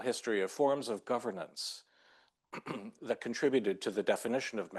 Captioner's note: clears throat